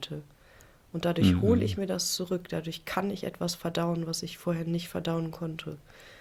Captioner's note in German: räuspern